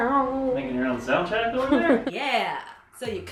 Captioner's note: sings more instrumentals; giggles